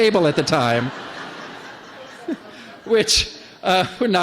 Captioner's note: laughter